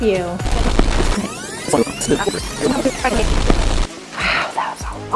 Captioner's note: tape reversing squiggles